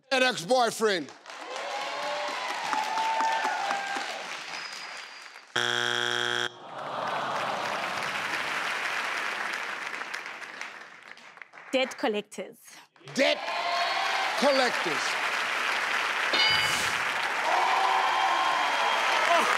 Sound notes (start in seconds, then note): 1.3 audience cheering; 5.6 buzzing; 6.6 audience exclaiming in disappointment and clapping; 12.9 audience applauding; 16.4 audience cheering; 16.4 clunking